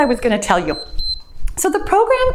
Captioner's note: timer beeps